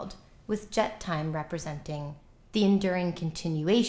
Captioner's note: non-english